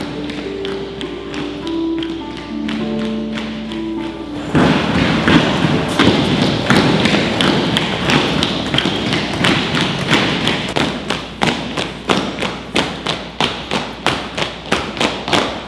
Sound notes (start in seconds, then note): 4.4 loud steps